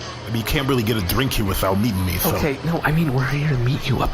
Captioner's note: whispering